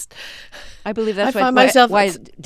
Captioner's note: soundbite of laughter